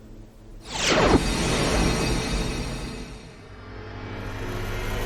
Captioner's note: wind whooshing